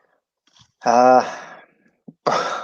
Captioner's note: sighs